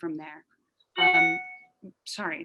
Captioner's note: computer alert